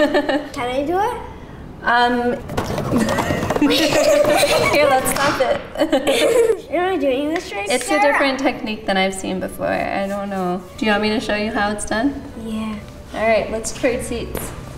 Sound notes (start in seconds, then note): 2.4 clay clatters; 2.9 laughing